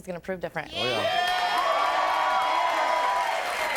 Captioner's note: audience cheers